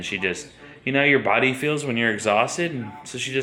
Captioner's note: none